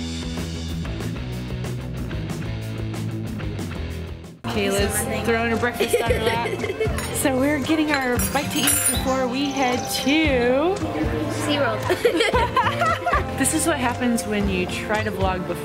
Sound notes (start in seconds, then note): 0.0 upbeat rock music; 5.6 laughing; 11.6 laughs